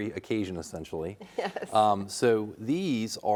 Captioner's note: laughing